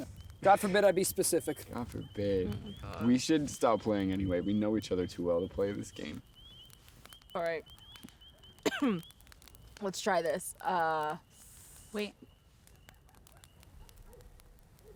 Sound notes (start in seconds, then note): 8.6 coughs